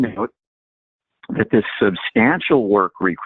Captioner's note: distorted audio